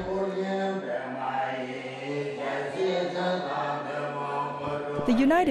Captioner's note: chanting